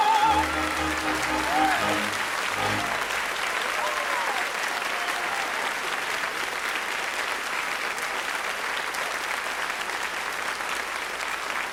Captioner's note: applause